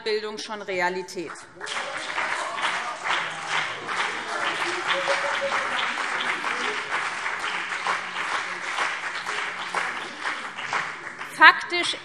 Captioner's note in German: Beifall BÜNDNIS 90/DIE GRÜNEN und CDU - Lachen Freie Demokraten